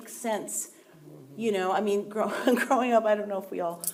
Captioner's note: chuckling